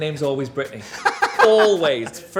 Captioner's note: John laughs